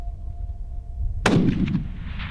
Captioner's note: gun shot